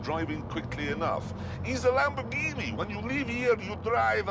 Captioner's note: italian accent